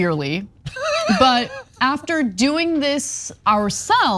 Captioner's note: laugh